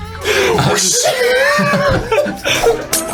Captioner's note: mimics tearing paper